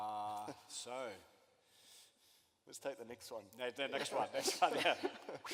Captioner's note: laughter